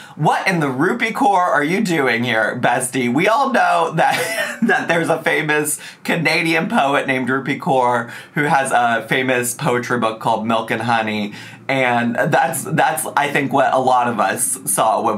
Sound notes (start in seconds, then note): 4.0 chuckles